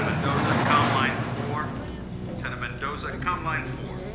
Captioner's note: over P.A. system